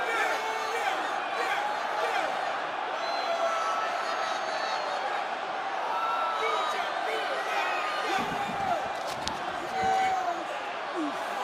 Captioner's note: crowd chatter; crowd cheering